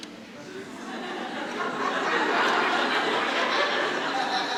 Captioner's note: audience laughing